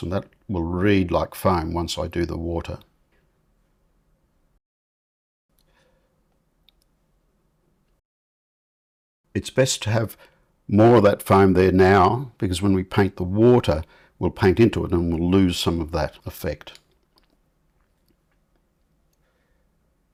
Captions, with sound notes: And that will read like foam once I do the water. [silence] It's best to have more of that foam there now because when we paint the water we'll paint into it and we'll lose some of that effect.